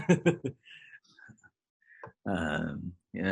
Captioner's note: laughs